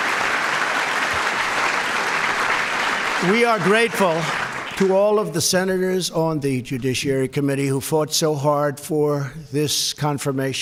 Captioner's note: applause